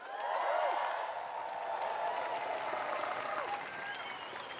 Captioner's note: audience cheering